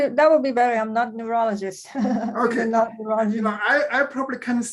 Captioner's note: chuckles